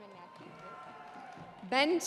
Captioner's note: audience cheering